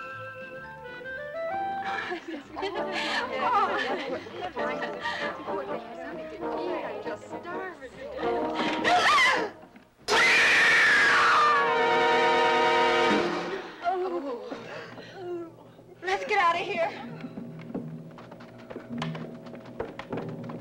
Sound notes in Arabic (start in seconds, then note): 0.0 موسيقى مشرقة; 1.8 يضحك بسعادة; 8.4 نساء تلهث; 10.1 صراخ النساء; 15.1 نساء تتأوه; 17.3 موسيقى مشوقة